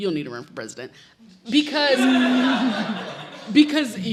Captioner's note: audience laughs